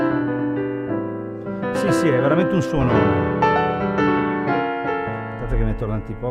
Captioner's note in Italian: Suono gigantesco